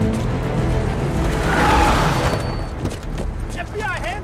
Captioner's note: tires screeching